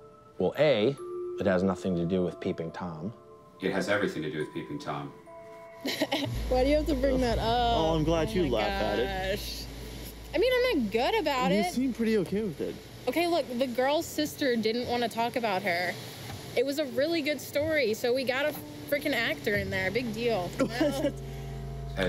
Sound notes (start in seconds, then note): 5.8 laughing